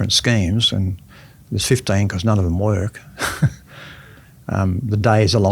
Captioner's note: chuckles